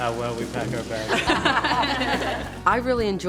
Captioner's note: laughter